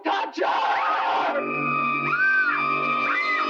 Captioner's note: Kane screaming; suspenseful orchestral music